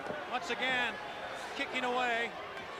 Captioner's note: crowd chatter